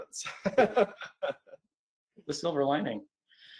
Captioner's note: laughs